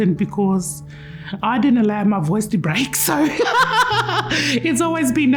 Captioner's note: laughs